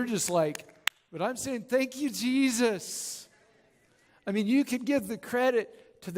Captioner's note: audience Claps And Cheers; claps